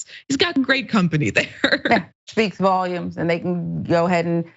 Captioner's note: laugh